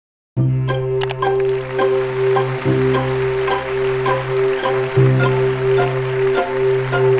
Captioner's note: uplifting music; audience applauding